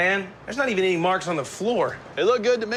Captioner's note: none